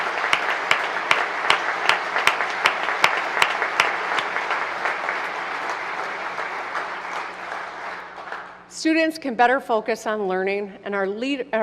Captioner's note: applause